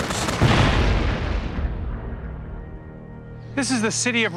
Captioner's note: bomb explodes